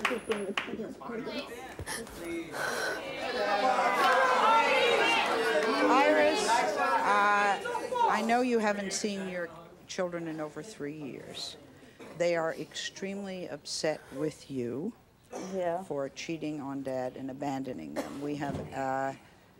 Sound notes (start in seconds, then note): 0.2 murmuring; 2.9 audience yells